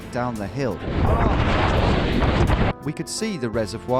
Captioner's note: wind rushing